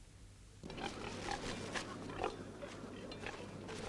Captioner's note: pigs grunting